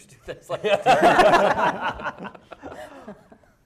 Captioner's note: laughing